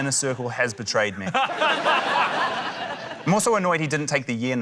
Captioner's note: laughter